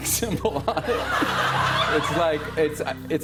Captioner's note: laughter